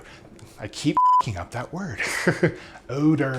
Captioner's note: beep